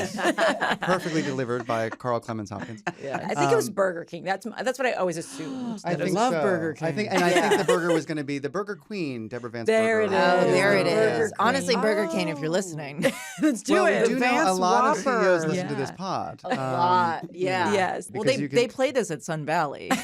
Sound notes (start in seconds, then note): 0.0 laughter; 13.2 chuckles